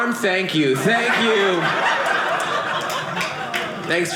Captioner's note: audience laughing